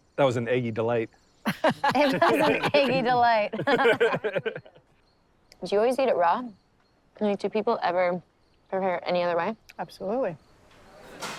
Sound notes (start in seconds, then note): 3.9 group laughing